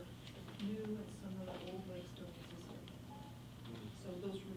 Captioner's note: faintly speaking